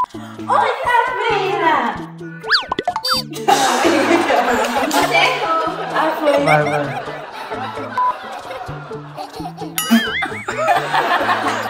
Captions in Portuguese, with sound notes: -Oi, Sabrina. -Oi, Sarah. [risadas] -Você errou. -Ah, foi. Vai, vai. [risos] [som de mola] [risadas]